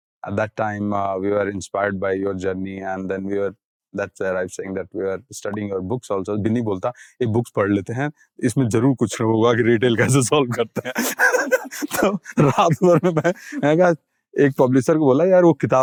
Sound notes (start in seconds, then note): 6.9 speaking in Hindi; 10.5 snickers